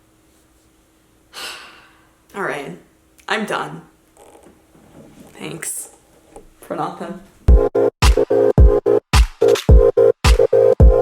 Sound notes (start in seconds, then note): 1.3 sighs; 7.5 upbeat music